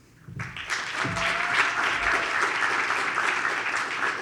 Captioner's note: audience applauds